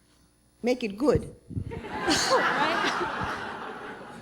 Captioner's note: laughter